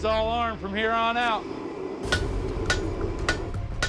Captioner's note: hammering